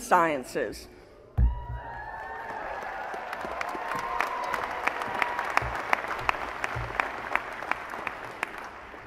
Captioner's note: applause